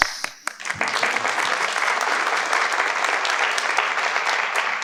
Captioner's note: participants clap